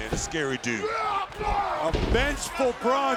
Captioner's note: body thudding